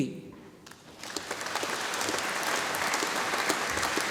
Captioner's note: audience applauding